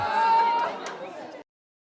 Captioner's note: audience laughing